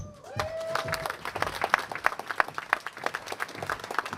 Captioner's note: applause